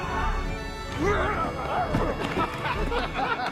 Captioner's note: grunts; laughing